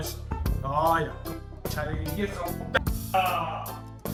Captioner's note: swearing in Spansh